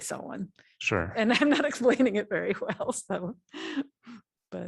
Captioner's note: laughter